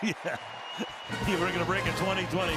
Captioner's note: laughs